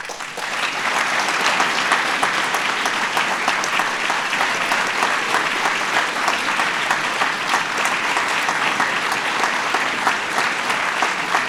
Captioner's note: applause